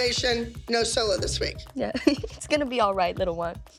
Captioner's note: chuckles